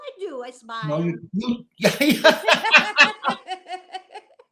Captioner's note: laughter